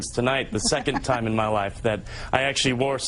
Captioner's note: Rachel laughs